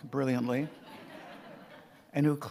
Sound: audience laughing

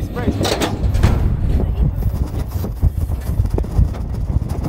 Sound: loud clank

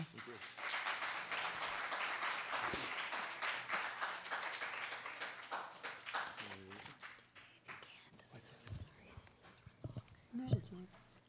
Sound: applause

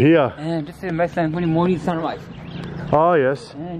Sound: speaking in foreign language

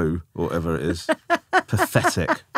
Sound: laughing

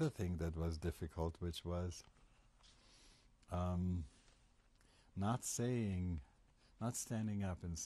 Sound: pauses for 3 seconds

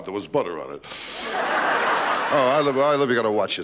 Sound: audience laughing

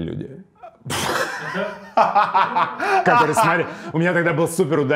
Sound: Dud and cameraman laugh

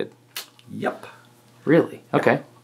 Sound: clicks tongue

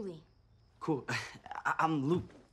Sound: chuckles

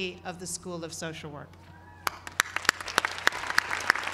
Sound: applause

